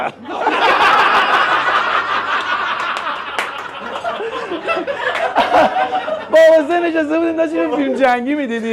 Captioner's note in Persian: خنده